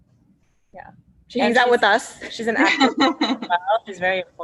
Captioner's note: laughs